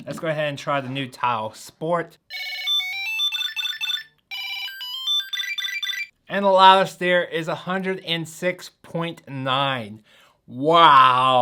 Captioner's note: TILE Ringing